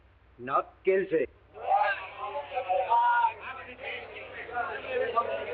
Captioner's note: people chattering